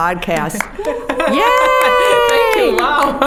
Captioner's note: all cheering